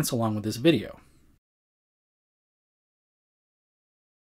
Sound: silence

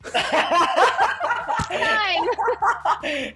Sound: all laughing

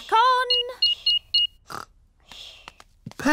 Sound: beeping

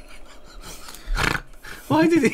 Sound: snort

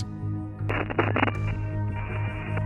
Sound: static

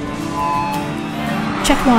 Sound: microphone screeches

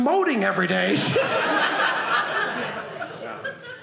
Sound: audience laughing

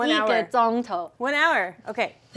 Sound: speaking in mandarin

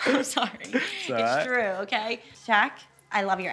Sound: laughing

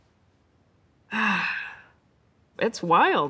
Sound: Melissa sighs

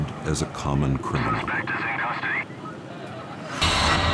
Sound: police radio

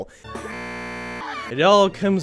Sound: broken ass scream

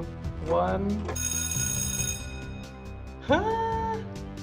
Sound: bell ringing

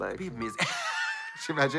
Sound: Katya hisses

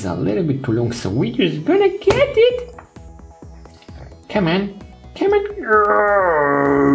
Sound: groans

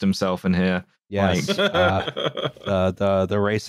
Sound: laughs

